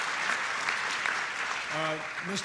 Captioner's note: applause